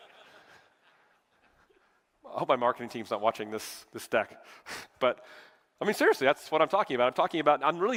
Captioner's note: laughter